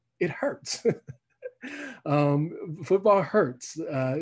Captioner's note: laughs